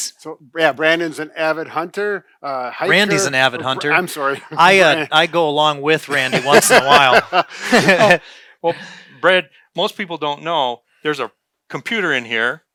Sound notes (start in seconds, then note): 6.2 laughing